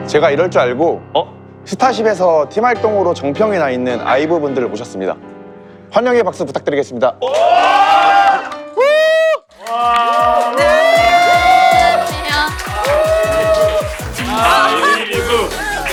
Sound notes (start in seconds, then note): 7.3 receive welcoming applause an add shouting